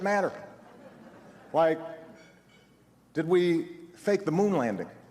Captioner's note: laughs